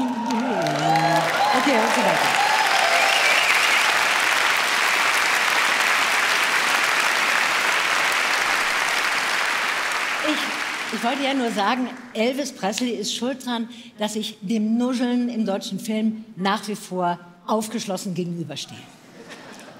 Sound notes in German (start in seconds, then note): 2.6 Applaus